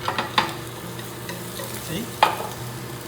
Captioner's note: sizzling